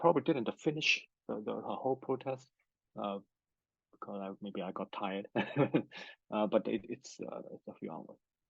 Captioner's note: laughs